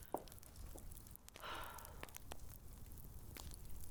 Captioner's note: Bessie sighs